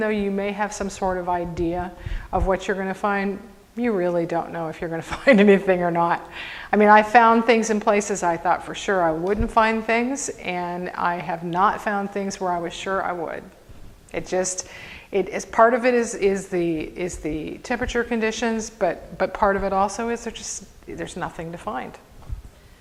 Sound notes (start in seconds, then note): 5.1 chuckles